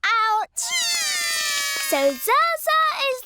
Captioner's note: both cry